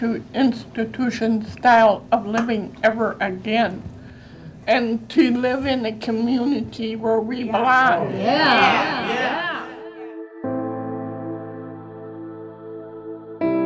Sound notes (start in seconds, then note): 8.0 crowd; 8.9 instrumental music